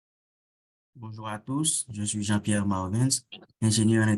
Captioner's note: non-english speech